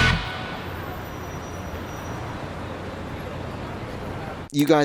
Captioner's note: traffic rumbling